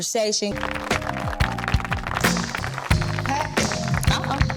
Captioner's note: audience applauding; lighthearted music